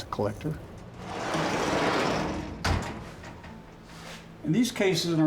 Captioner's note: door rattling